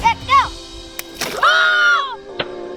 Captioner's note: splash; screaming